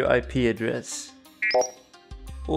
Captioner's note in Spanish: pitido